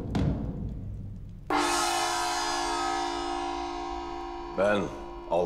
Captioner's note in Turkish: Davul sesleri; Gong sesi